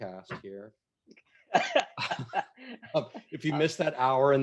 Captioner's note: laughs